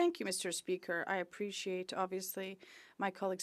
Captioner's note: speaking French